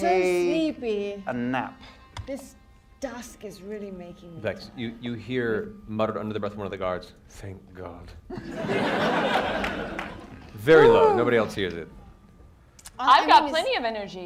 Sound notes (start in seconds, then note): 8.3 laughter